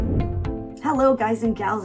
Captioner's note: air whooshing